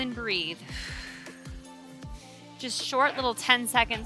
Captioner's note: exhaling